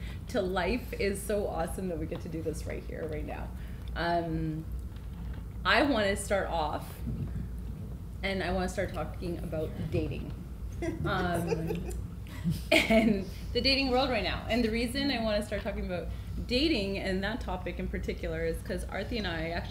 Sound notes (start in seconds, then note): 10.7 giggling